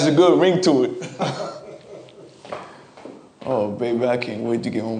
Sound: laughing

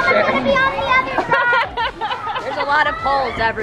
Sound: laughing

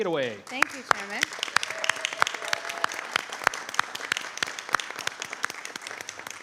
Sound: audience applauding

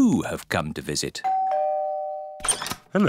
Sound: doorbell rings

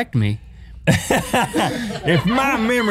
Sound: laughing

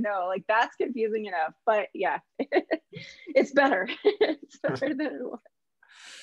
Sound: chuckles

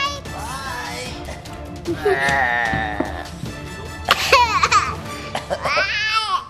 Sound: groans; laughs

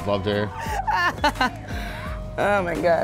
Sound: laughing

